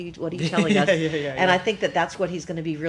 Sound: laughs

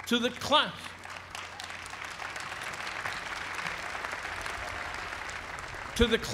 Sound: applause

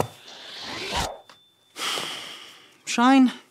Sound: lion pass swooshes

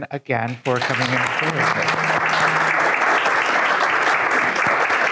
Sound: attendees clapping

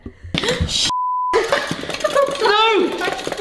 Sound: beep

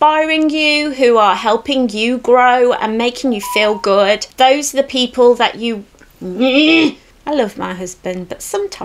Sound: phone notification beeps

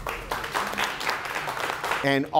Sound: clapping

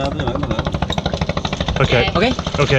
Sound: speaking in foreign language

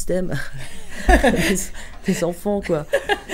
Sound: laughs

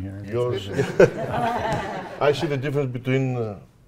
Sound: audience chuckling

